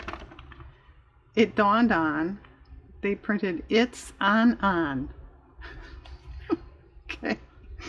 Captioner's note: laughs